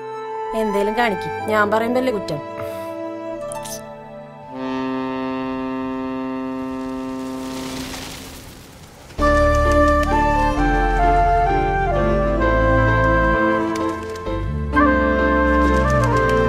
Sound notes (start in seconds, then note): 2.5 sighs